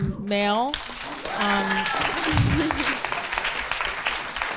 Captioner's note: audience applauding